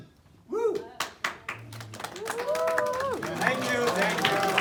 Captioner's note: man whooping and crowd clapping